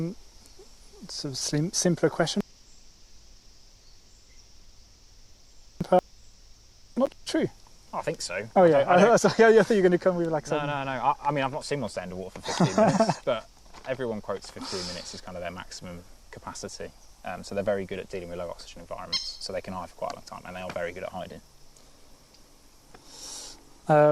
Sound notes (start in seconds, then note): 3.7 break in transmission; 12.4 laughter